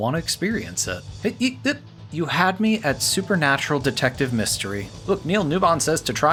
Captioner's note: assorted mouth noises